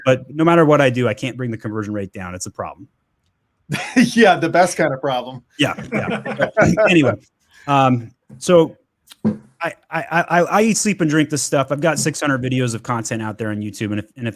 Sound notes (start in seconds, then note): 3.7 laughs